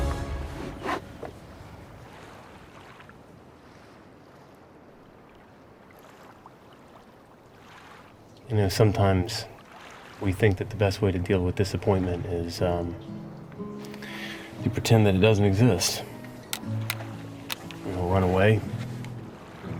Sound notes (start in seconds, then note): 5.4 waves gently rolling; 17.4 sunglasses clattering